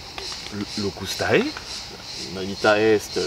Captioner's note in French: criquets